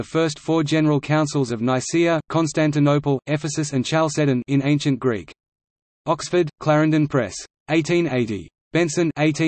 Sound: in Ancient Greek

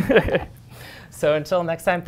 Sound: laughter

